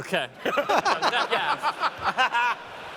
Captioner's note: laughter